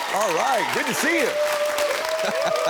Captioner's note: audience cheering; audience clapping; laughs